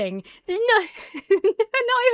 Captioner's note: laughs